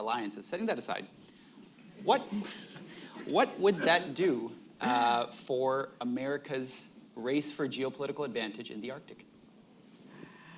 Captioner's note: laughter